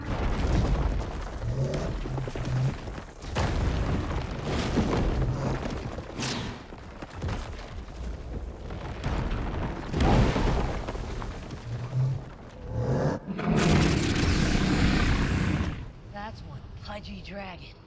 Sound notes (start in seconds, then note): 12.5 roars